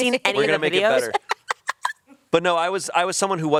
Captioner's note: laughs